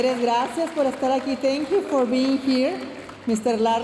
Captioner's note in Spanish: hablando en inglés